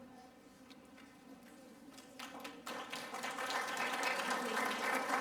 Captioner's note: applause